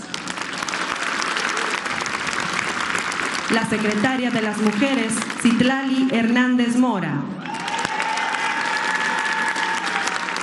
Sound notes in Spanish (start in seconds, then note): 2.6 aplausos